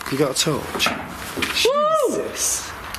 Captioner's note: thud